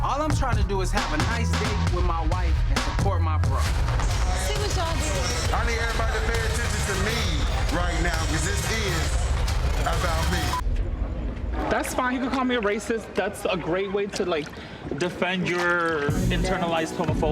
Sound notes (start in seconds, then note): 5.1 tense suspenseful music; 11.6 people chattering